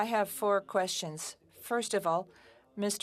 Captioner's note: speaking French